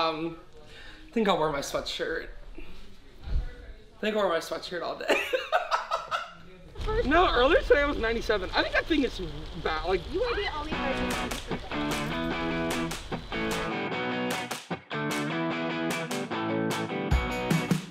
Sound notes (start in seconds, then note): 5.1 laughing; 10.7 upbeat rock music